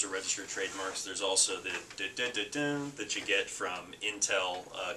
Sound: mimics a beat

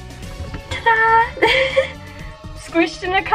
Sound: giggles

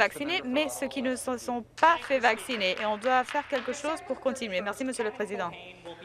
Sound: applause

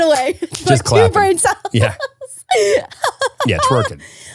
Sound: laughing

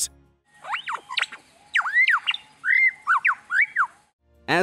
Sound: bird mimics R2D2

